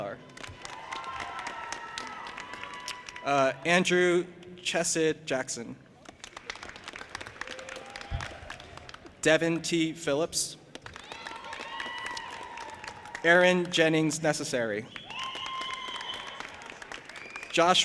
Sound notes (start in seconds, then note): 0.2 audience applauding and cheering; 6.0 audience applauding; 10.8 audience applauding and cheering; 14.9 audience applauding and cheering